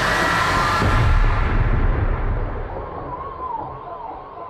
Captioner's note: doors slam